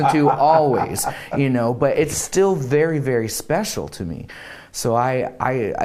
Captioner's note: laughter